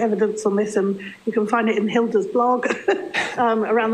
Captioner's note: laughing